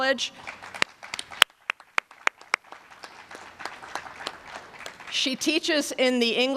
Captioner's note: applause